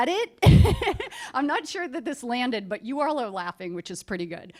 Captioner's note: laughter